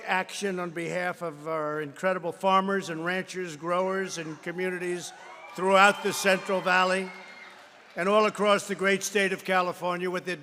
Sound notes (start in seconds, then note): 5.2 applause